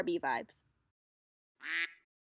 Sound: quack

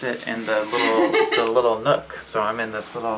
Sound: laughing

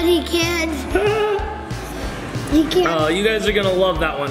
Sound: laughs

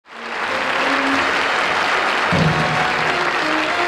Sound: audience applauding; orchestral music

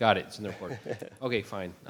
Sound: laughs

